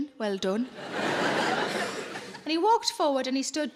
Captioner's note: audience laughing